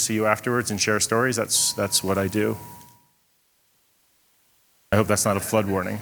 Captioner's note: bell humming